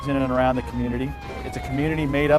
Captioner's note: sirens wailing